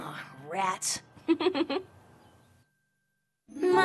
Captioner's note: chuckles